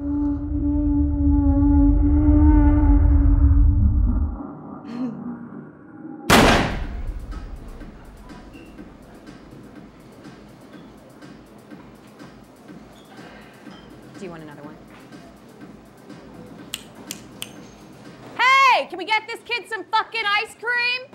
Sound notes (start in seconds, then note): 0.1 ominous music; 6.3 gunshot bangs; 6.8 upbeat music; 14.2 upbeat music; 16.6 snaps fingers